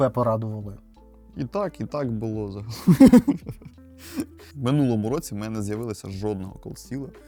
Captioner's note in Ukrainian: сміх